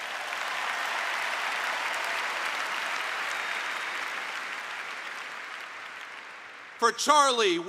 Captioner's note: applause